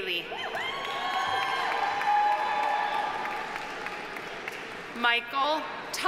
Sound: audience cheering; audience applauding

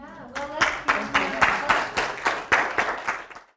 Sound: applause

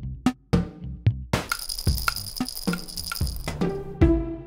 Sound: toy rattling

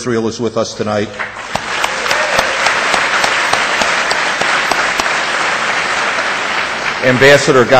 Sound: audience applause

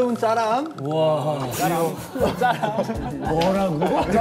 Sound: haha

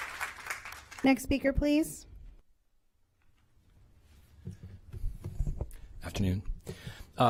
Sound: applause

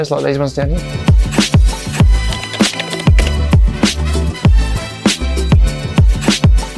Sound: upbeat music; keyboard clicking

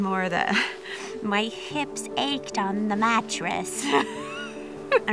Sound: old lady voice

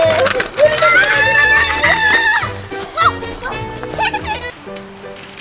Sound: assistant screaming

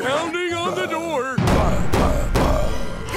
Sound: pounding

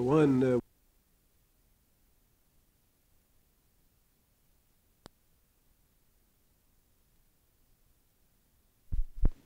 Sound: silence

